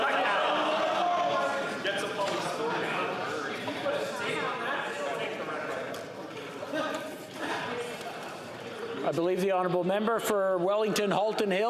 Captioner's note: yelling